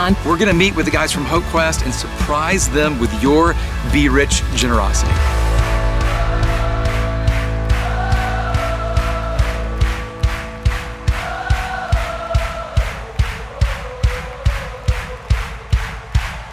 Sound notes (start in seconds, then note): 5.2 rhythmic clapping